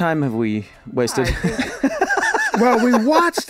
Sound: Glenn laughing

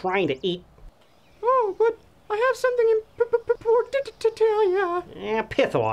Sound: stuttering

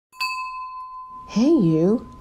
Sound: bell rings

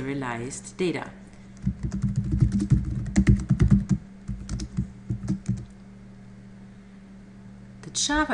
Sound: typing Sounds

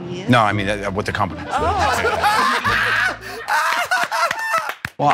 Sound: laughter

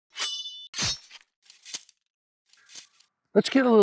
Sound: sword slashing

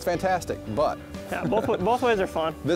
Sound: laughs

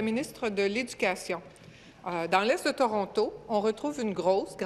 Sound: speaking in French

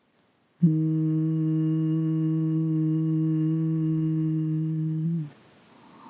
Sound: humming sound

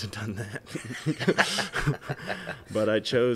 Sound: both laughing

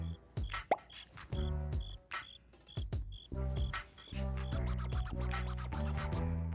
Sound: bubble pops; crickets chirping

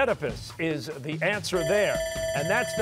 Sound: bell ringing

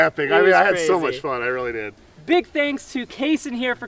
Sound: none

